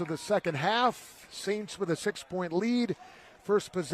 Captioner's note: applause